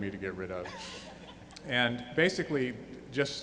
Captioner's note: laughing